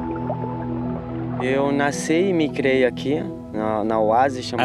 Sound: Brazilian spoken audio

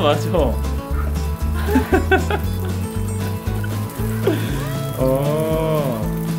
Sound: relieved sigh

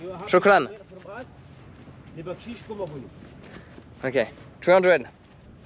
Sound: speaking in foreign language

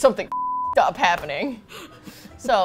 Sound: laughs

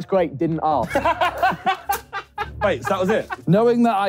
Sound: group laughing

